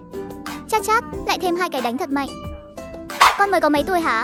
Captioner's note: slap, slap